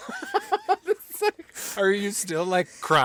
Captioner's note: laughing